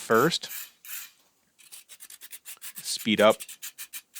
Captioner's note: utensil scrapes concrete